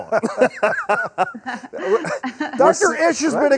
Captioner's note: participants laugh